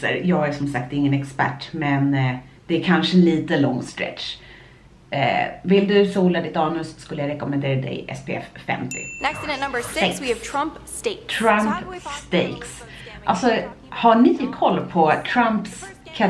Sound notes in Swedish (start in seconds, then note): 8.9 ding